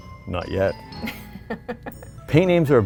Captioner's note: laughs